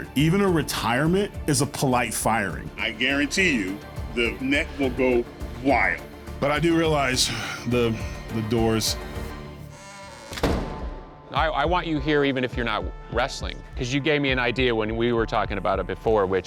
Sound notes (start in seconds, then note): 9.6 door creaks shut